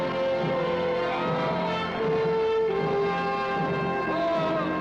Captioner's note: men shout